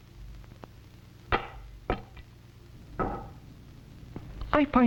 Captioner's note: clangs